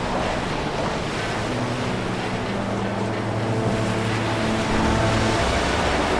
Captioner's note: water sloshing; tense music continues